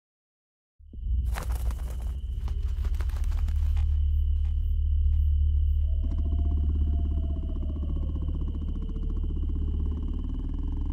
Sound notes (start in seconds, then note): 1.2 bat flying sound; 5.7 owl owing sound